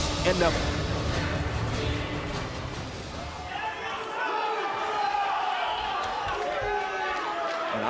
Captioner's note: crowd cheering